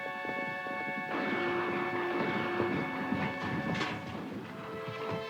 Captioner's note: distant guns fire